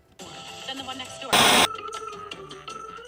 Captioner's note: static hisses; funky music; static hisses